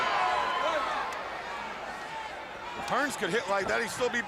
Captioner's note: crowd chatter